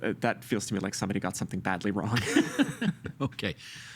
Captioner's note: laughing